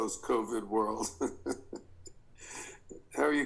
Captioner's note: Joel chuckles